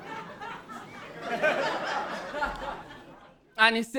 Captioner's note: audiene laughing